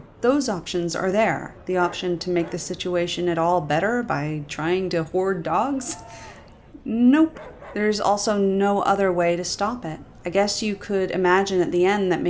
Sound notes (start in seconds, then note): 5.8 chuckle